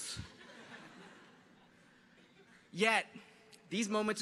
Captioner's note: audience chuckles